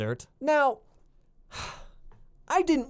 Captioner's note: sighs